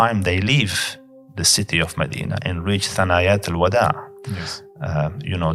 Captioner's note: Arabic